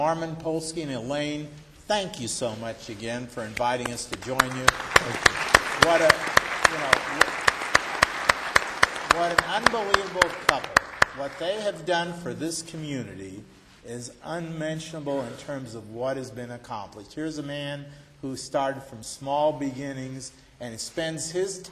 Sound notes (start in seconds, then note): 10.9 applause